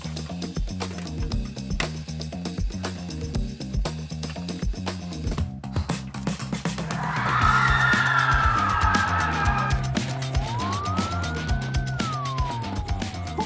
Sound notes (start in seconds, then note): 6.8 partygoers screaming; 9.6 police sirens blaring; 9.6 upbeat music